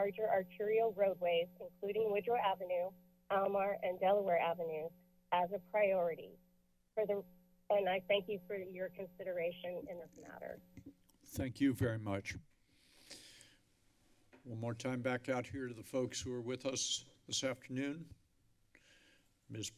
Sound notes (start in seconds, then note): 10.8 mic thump; 12.6 inhales deeply